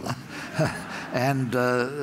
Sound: laughter

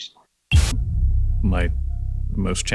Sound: static buzzing

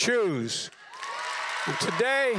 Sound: applause

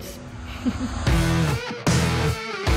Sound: heavy music; laughs

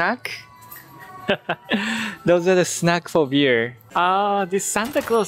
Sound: chuckles

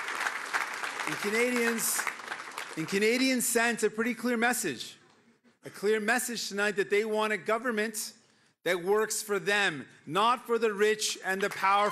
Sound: cheering

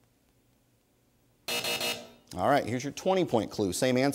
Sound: buzzer sounds

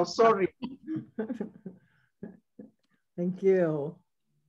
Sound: panelists laughs

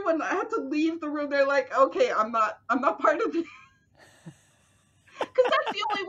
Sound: laughter

